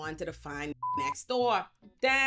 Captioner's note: beep